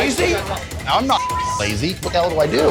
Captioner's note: beep